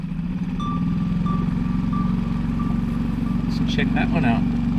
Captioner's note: sonar beeping sound